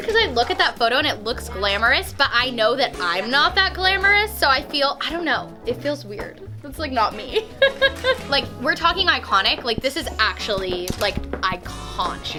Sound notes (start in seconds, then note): 7.2 laughing